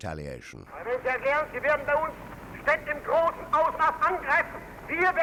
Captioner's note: Hitler talks through radio